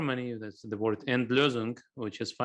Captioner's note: speaking in foreign language